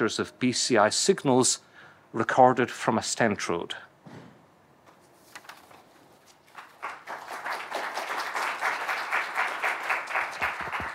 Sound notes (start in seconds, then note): 6.5 audience applauds